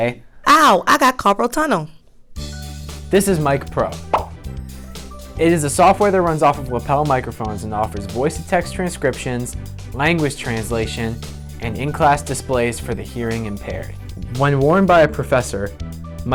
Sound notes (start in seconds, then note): 4.1 pop